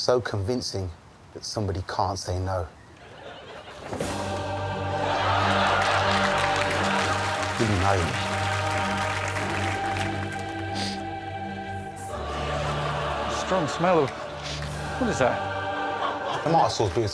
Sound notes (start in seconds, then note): 5.1 suspenseful music; 6.4 audience laughs; 10.7 sniffs